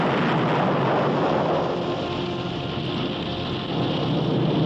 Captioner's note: engines rumble